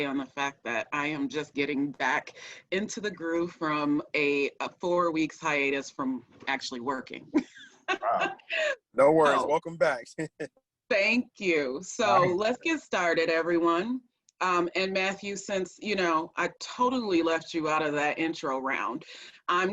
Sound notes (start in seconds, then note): 7.8 laughs; 10.6 chuckles